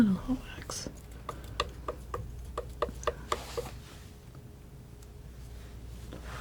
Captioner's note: tapping